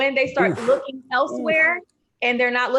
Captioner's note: groaning